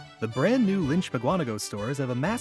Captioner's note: voiceover